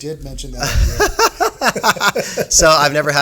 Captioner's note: laughing